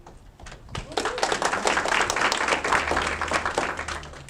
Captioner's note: audience clapping